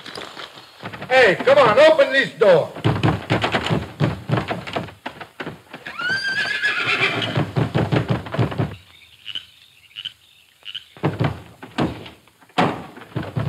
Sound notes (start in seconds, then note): 2.7 door clattering; 5.7 horse whinnies